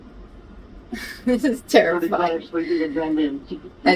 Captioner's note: laughs